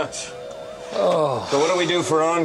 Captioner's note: man sighing